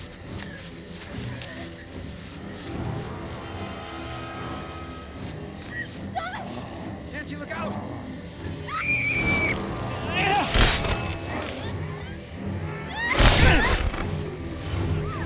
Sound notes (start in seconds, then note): 8.4 screams; 10.6 gasping, screaming; 13.1 enraged grunt